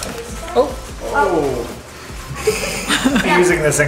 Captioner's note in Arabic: مجموعة تصرخ